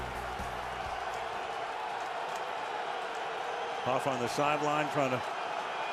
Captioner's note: crowd cheering